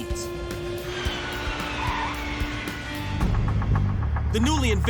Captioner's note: tires screech